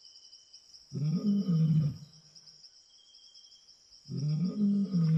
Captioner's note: animal grunting